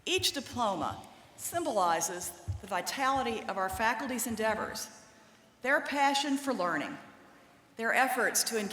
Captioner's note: none